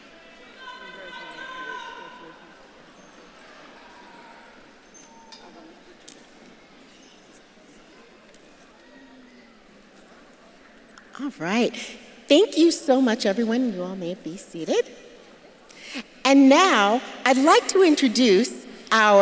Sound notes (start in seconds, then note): 0.7 audience members shouting; 3.3 audience murmuring